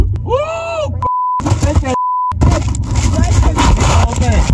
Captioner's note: beep; beep